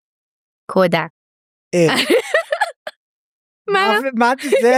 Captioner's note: laughs